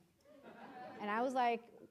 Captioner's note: audience laughing